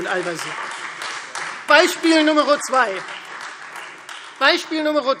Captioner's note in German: Beifall Freie Demokraten